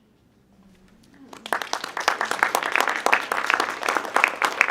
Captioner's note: audience clapping